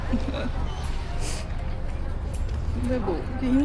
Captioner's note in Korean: 훌쩍